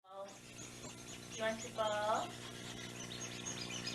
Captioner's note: ball squeaks